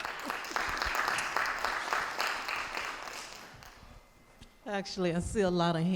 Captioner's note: audience applauding